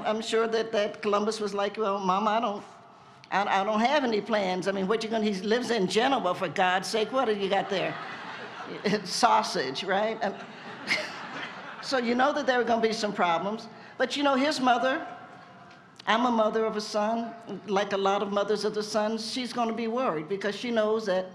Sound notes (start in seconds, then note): 10.1 laughter